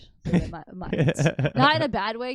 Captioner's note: laughing